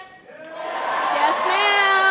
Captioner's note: cheering